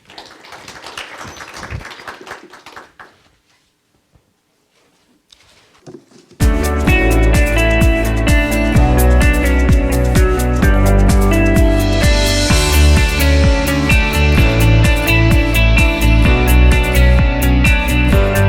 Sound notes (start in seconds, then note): 0.0 clapping; 6.8 upbeat music